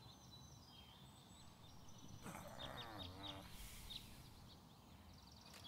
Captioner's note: groaning